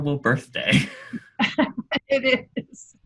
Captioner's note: laughing